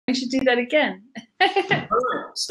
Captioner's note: laughs